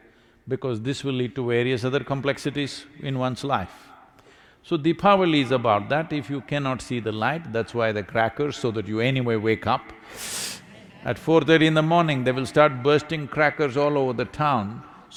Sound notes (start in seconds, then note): 10.6 laughter